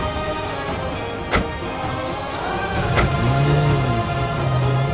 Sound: car doors closing

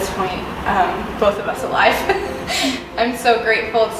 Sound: laughing

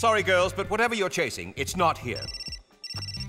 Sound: beeping

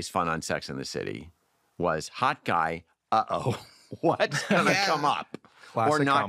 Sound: laughs

